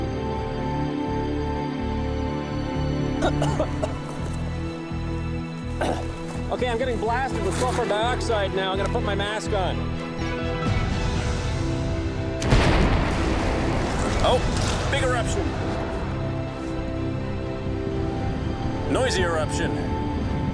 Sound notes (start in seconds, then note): 3.1 coughing; 14.9 explosions